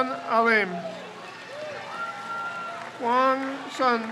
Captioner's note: crowd cheers